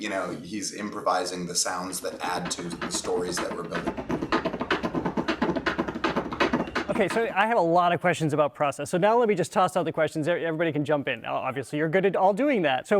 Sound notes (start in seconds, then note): 4.1 beatboxing rapid rhythm